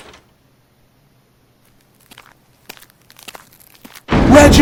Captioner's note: door opens; footsteps